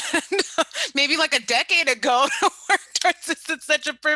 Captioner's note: laughs loudly